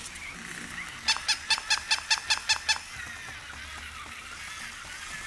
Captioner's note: toy squeaking